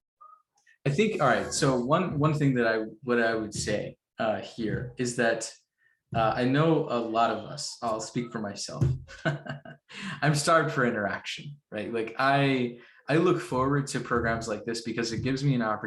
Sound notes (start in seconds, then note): 9.1 laughs